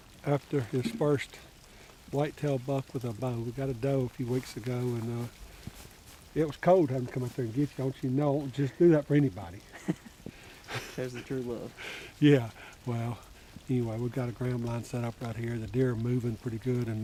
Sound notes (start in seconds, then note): 9.7 laughing